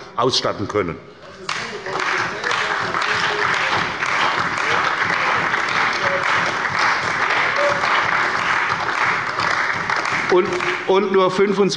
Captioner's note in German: Beifall bei der CDU und dem BÜNDNIS 90/DIE GRÜNEN